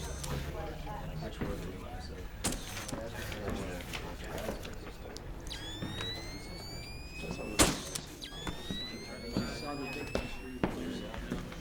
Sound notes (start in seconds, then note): 1.3 low murmur of voices